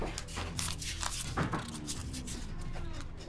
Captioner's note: bills rustling; doors creaking